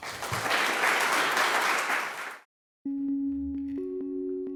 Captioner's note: audience applauds